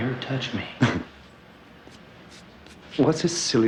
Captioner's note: Neil laughs